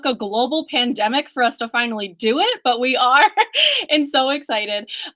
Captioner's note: laughs